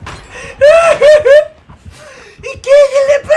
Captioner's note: laughs in Spanish